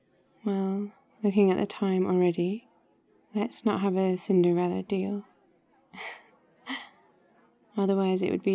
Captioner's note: laughs